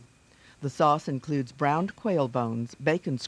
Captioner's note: voiceover